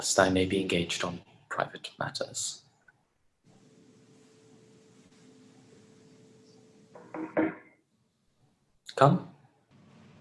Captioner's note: a knock at the door